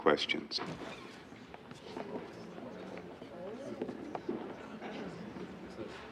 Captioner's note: people in court murmuring